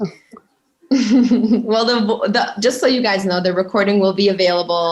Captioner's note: chuckling